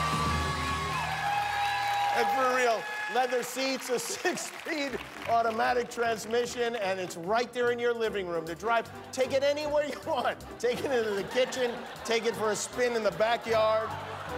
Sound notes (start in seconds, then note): 4.7 cheers and applause